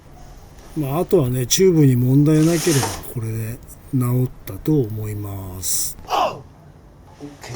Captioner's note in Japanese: おうっ！